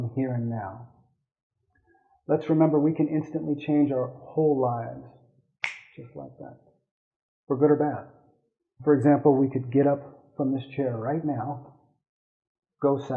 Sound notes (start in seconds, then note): 5.6 snapping sound